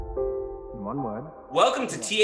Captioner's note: somber piano music continues; male Voice